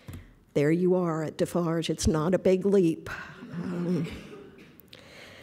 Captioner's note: laughter